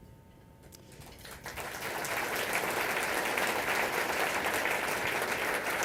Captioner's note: applause